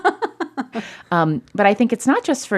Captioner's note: laughter